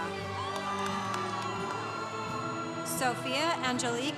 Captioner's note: congregation cheering